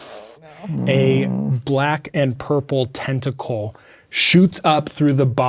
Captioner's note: groaning